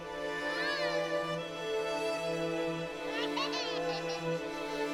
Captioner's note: child laughing